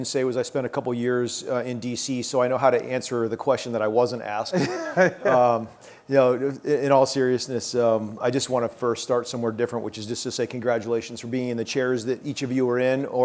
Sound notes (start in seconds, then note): 4.5 laughs